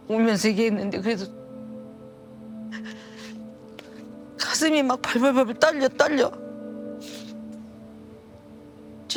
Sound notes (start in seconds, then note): 2.7 breath trembling; 7.0 sniffles